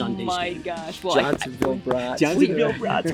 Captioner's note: hands thudding